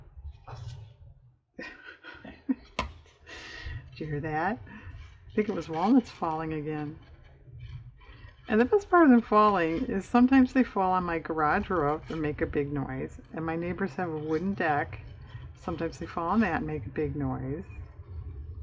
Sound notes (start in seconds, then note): 1.6 laughs